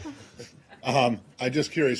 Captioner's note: laughter